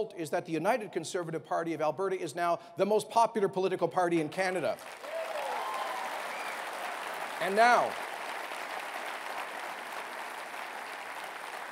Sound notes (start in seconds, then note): 4.8 cheering and applause